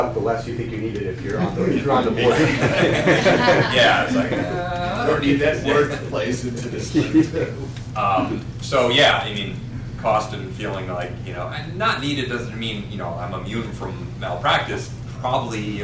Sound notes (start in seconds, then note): 6.8 laughter